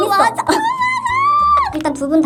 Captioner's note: scream